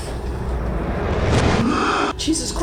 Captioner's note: Evan whooshing